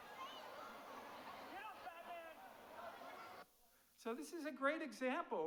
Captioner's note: audience cheering